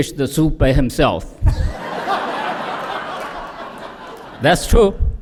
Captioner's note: laughter